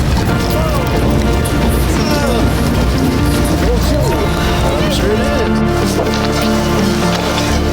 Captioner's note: greeting noises